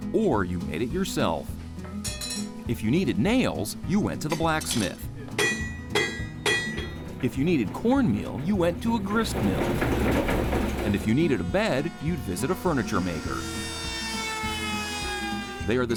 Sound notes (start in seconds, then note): 6.0 hammer clanging; 9.9 mill humming; 13.7 saw buzzing